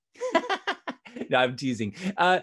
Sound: laughs

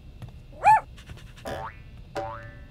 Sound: Murph barks

